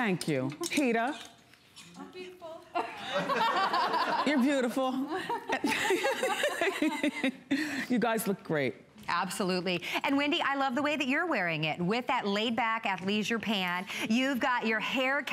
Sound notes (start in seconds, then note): 2.8 laughter